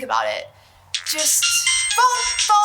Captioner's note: phone ringing